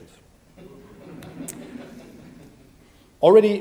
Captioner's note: audience laughs